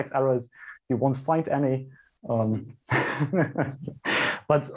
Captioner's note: laughs